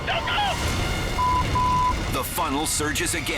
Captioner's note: beep